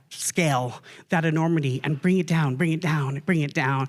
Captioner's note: none